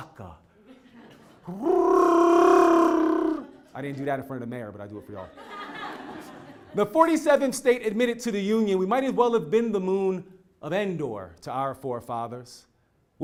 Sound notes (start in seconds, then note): 0.8 laugh; 5.5 laugh